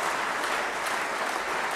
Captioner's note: applause